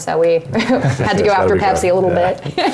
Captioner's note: laugh